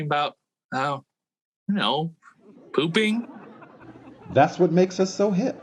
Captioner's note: audience laughing